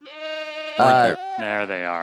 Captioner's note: goat bleating